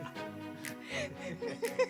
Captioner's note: laughs